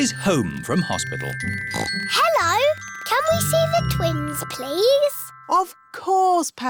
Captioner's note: oinks